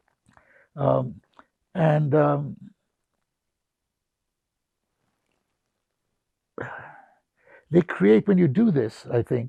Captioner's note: pauses 6 seconds